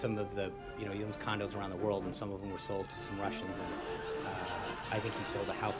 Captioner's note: raucous laugh track